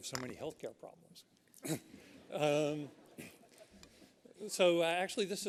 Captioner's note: laughter